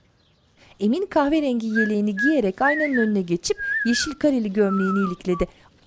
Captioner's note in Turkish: Islık sesi